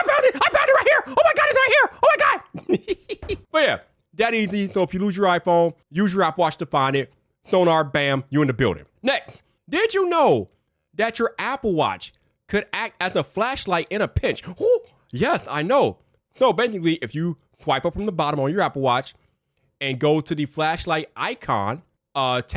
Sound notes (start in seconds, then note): 2.6 laughs